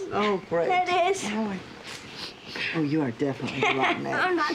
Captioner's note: sniffs; laughs